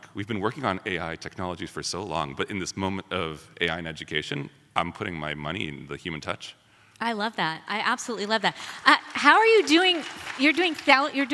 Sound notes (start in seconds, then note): 8.2 audience applauds